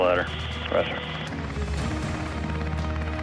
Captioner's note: beep